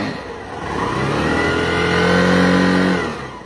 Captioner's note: bike accelerates